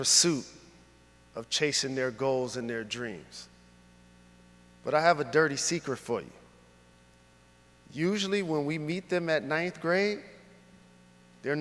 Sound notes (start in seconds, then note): none